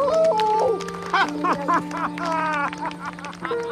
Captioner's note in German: jubelt laut; Bedrückte Musik